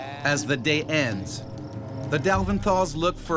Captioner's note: voiceover